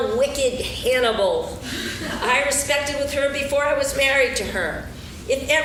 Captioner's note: laughing